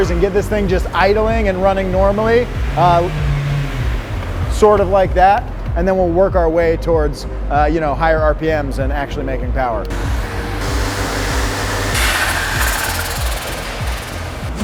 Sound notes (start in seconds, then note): 3.4 car engine revving